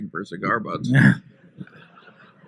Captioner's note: laughter